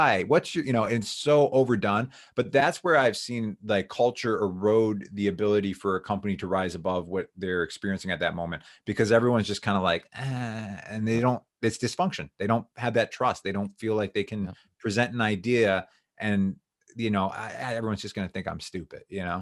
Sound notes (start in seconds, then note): 10.1 sighs